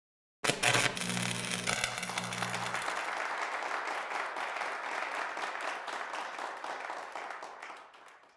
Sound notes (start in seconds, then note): 0.4 electricity sparking; 1.6 audience applauding